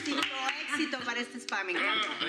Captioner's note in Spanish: aplausos